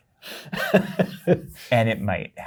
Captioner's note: guy laughs